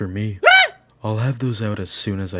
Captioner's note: the king yelps